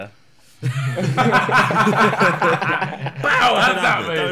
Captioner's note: laughing